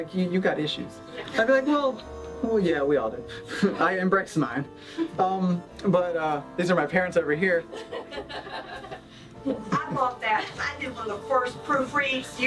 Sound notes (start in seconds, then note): 7.7 laughter